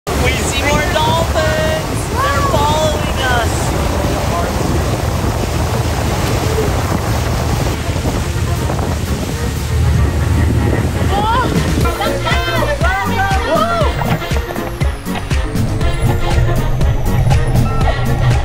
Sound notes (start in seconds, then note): 4.2 wind blows and waves crash; 14.4 cheerful music